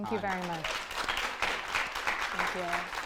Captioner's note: audience applause